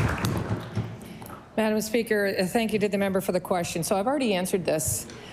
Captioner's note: applause